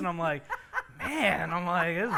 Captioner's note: laughs